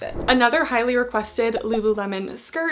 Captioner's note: screen whooshing